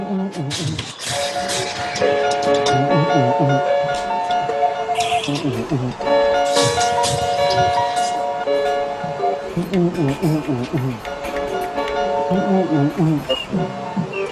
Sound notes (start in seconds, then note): 2.7 grunting